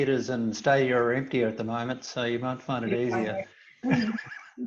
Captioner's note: laughs